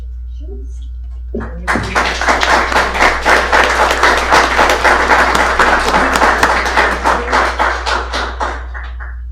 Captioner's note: applause